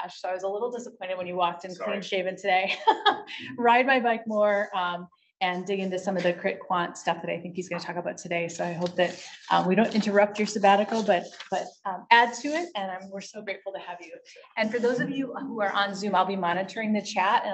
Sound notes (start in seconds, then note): 1.8 laughs